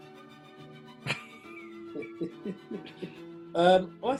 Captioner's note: chuckling